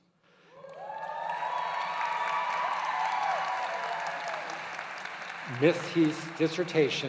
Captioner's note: applause